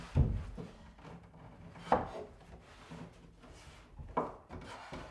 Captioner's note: none